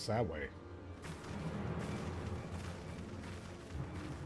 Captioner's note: fire crackling